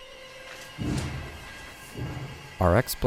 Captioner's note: footsteps tapping